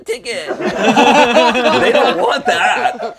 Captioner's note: laughter